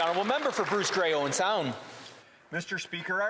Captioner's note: some Applause